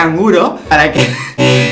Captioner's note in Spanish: risa; risa en cámara lenta